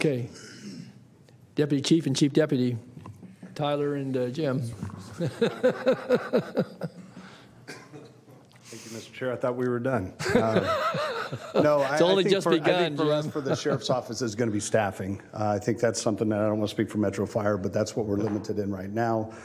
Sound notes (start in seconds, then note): 10.2 laughter